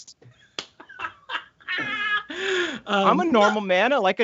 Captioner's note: laughs; laughing